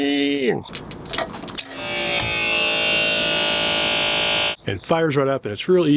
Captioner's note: machine revving